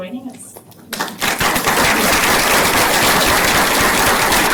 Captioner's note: applause